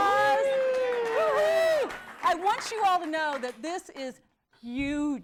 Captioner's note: �cheering and applause�